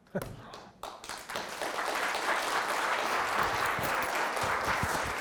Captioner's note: audience applauding